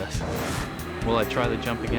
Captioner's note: screen whooshes